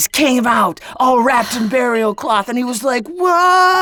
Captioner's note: woman sighs